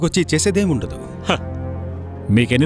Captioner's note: chuckles